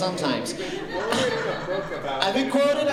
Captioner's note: laughter